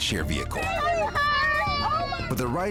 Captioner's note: child crying